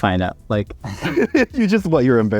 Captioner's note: both laugh